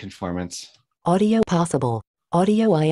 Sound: automated Voice

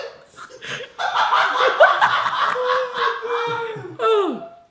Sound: audience laughing

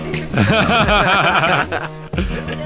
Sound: laughes

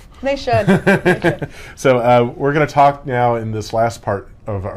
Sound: laughter

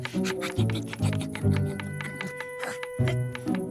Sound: straining

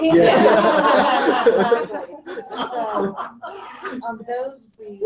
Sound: laughter

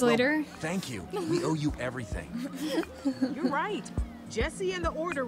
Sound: Sabrina laughs

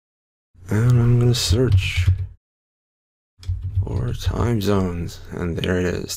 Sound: typing

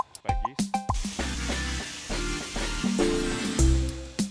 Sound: louder waterfall

